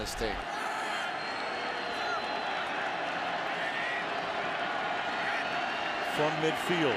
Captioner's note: cheering